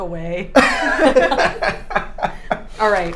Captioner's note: both laughing